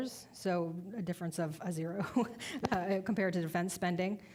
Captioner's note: laughing